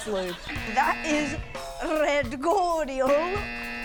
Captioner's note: laughs